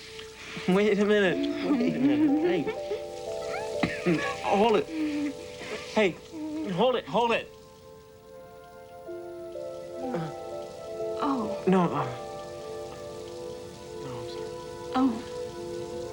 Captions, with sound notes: WAIT A MINUTE. WAIT A MINUTE. H. [GIGGLING] [COUGHS] HOLD IT. HEY. HOLD IT, HOLD IT! UM... OH. NO, UM... I'M SOY. OH.